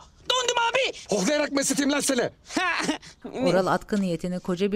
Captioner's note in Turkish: Gülme sesi